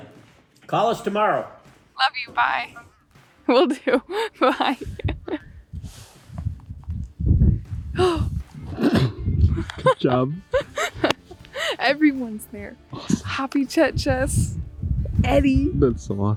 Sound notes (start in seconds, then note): 3.5 chuckling; 8.5 laughing